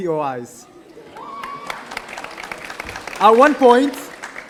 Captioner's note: audience applauding